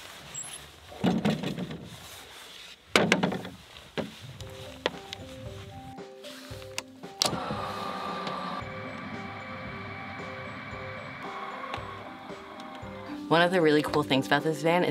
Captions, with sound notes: (relaxing music) (car roof opens) One of the really cool things about this van